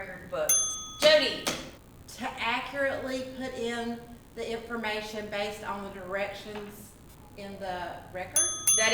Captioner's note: ding Ding